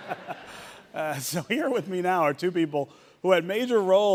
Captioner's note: audience laughing